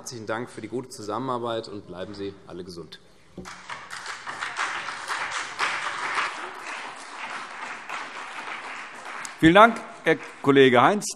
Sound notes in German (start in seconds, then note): 3.4 Beifall